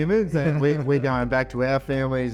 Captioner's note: laughs